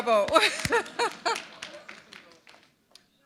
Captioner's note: chuckle